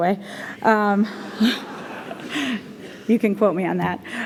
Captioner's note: laughter